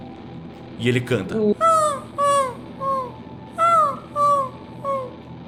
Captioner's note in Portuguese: canto do urutau